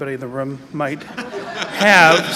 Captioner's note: laughter